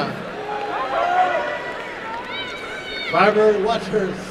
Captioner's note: applause and cheering